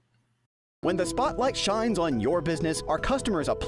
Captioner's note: voiceover